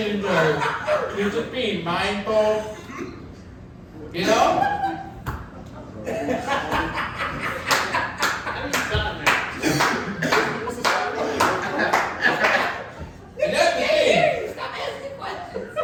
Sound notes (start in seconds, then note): 2.7 audience laughing; 7.8 audience member clapping; 15.6 audience laughing